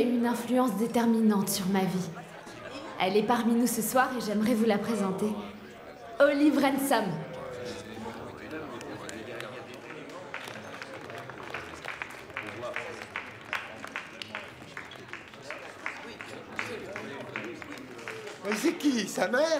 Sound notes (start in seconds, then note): 8.9 weak applause